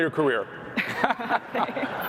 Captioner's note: laughter